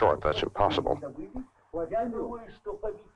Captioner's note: group speaking in Russian